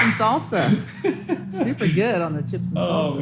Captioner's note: laughs